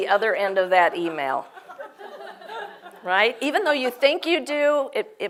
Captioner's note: laugh